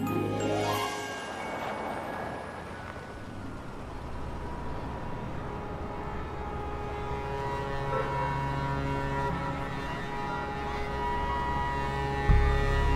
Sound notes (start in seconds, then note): 0.5 music fades; 6.1 pensive music; 6.3 pedestrians chattering